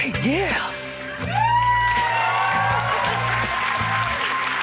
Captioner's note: cheering, applause